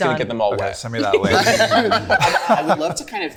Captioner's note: group laughing